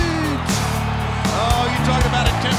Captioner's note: crowd cheering